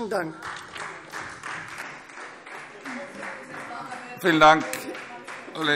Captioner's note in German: Beifall Freie Demokraten